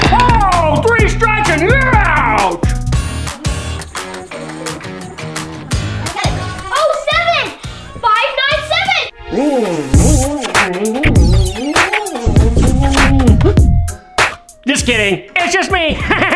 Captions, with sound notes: Oh, three strikes and you're out! Oh, seven! Five, nine, seven! [kissing sounds] Just kidding, it's just me.